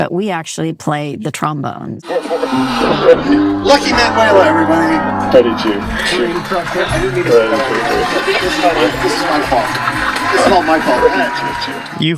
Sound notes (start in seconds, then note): 2.1 trombone booms; 6.8 people chattering